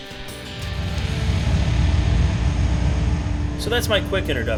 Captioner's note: car engine rumbling